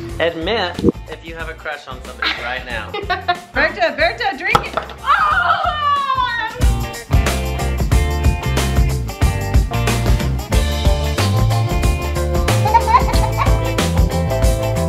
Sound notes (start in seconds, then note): 2.9 laughs; 5.0 screams loudly; 7.0 upbeat, lively music